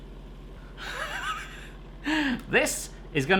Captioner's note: laughing